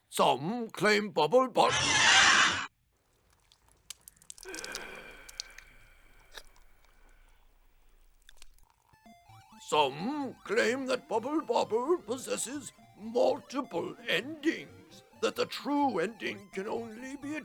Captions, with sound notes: Some claim Bubble Bobble— [Ungodly cry of the Great Tentacled Beast of Del’Kutlz’na] Dread Lich of the Broken Hand: [Sighs] Some claim that Bubble Bobble possesses multiple endings, that the true ending can only be